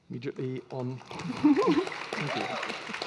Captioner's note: audience applauding